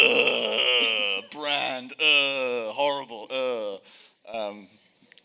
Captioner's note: groaning